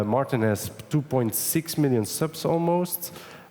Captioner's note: none